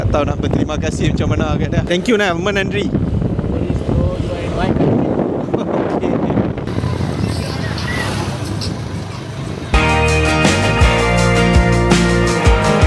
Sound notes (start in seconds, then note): 1.9 speaking Tamil; 6.8 laugh